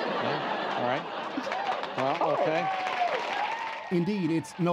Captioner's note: laughter